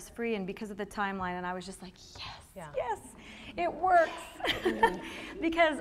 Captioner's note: laughter